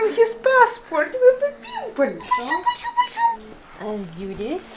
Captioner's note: grandma baby talking